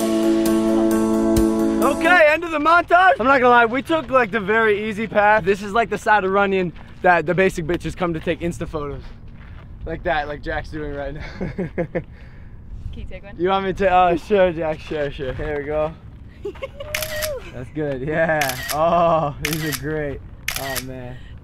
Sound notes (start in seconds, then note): 11.2 chuckles; 16.4 chuckles